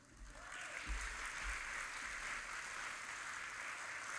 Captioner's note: audience applauding